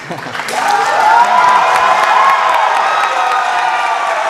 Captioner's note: cheers and applause